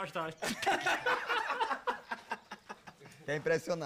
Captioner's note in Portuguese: todos rindo